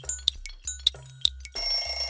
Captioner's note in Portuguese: tic tac; alarme